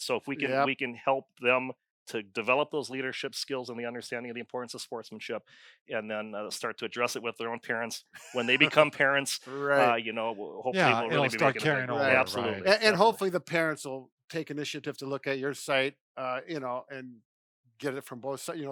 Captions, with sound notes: - So if we can help them to develop those leadership skills and the understanding, and the importance of sportsmanship. And then start to address it with their own parents. (laughing) When they become parents - Right. - You know, hopefully it will - Ya it'll start carrying over - Absolutely. - Right. - And hopefully the parents will take initiative to look at your site you know, get it from both sides.